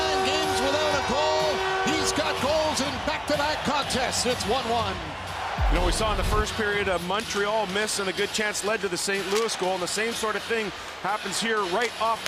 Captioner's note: horn Sounding; cheering and Applause